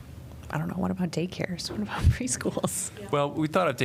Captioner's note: laughter